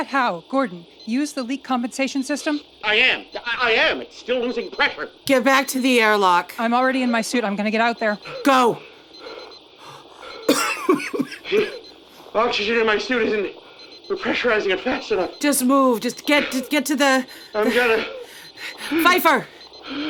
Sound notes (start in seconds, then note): 3.0 beepbeepbeepbeep; 9.9 door opening, Rhys coughing; 12.5 beepbeepbeepbeep; 17.7 beepbeepbeepbeep